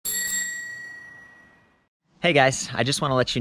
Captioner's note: bicycle bell ringing